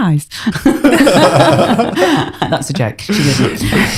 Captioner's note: laughter